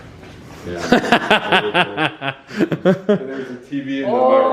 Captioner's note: laughing